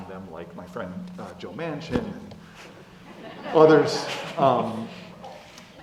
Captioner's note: laugh